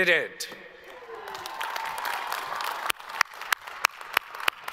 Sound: all applaud

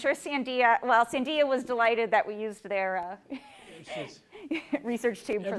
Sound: laughs

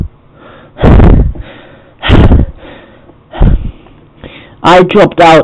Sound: exhales deeply

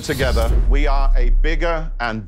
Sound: logo booms

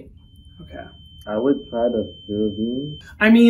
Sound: heart rate monitor beeping

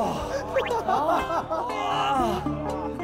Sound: causing a fit of laughter

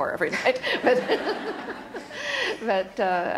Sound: laughter

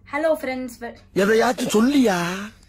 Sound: tamil movie dialogue in the background

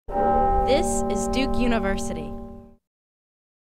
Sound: bell tolls

